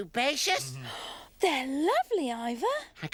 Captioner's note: gasps